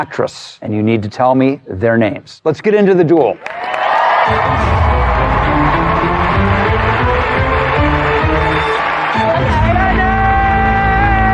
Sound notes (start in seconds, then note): 3.4 cheering and applause; 4.2 dramatic music; 9.2 audience member shouting